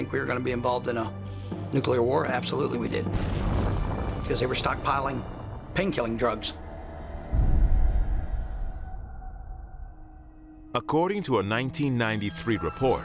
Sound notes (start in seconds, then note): 3.0 explosion